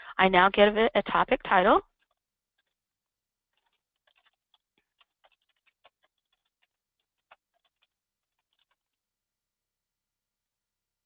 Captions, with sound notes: I now give it a topic title. (computer keyboard keys tapping)